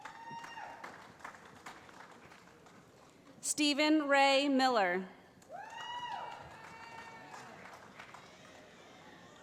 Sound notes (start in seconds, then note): 0.0 cheering; 5.5 cheering